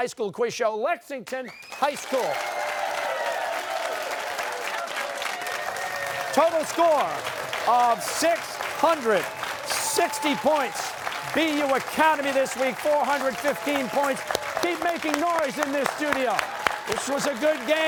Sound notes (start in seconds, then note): 1.4 cheers and applause